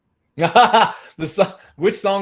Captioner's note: laughing